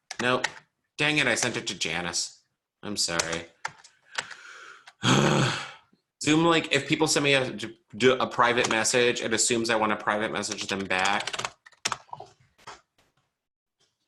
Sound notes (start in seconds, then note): 5.0 groans